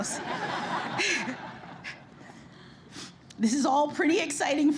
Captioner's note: laughter